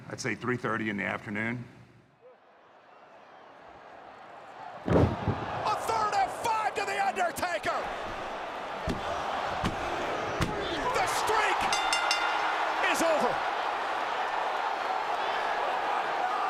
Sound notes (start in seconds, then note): 11.6 bell rings; 14.1 crowd murmuring